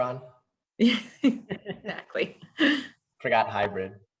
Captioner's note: laughs